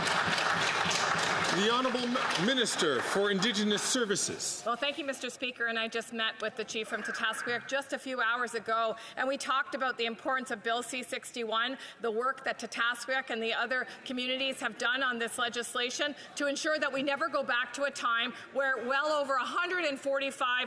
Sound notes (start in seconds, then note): 4.7 some Applause